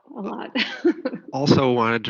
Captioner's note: laughs